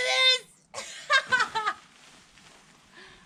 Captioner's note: laughter